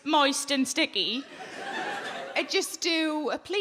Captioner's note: audience laughing